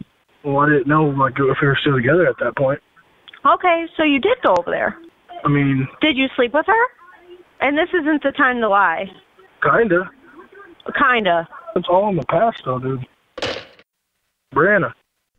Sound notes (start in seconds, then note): 13.4 hangs up